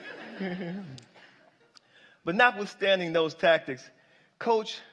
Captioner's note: laughter